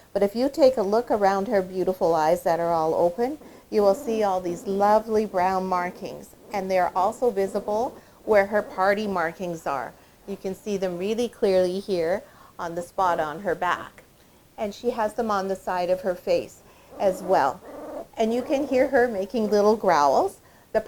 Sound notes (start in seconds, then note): 16.8 puppy growling